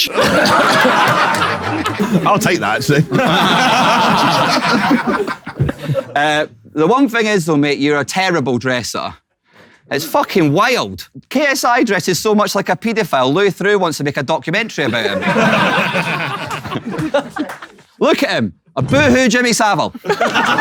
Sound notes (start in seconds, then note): 0.0 people in room laughing; 14.8 people in room laughing; 20.1 people in room laughing and shrieking